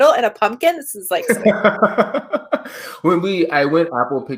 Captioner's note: laughs